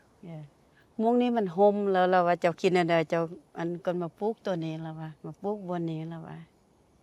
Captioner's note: speaking in foreign language